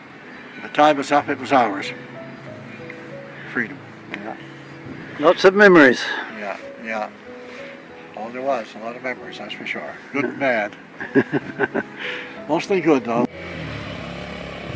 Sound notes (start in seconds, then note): 3.5 quieter; 10.9 both laugh; 13.3 whirr of the moped